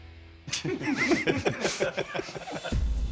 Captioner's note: laughter